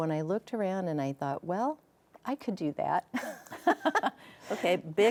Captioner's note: laughs